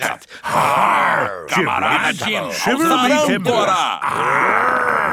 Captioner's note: menacing voice; he growls